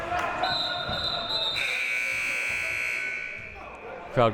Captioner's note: buzzer